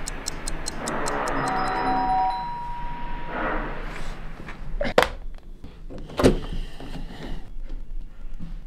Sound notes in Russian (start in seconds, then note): 0.3 звонок